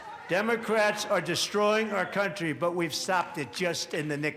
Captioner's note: audience reacts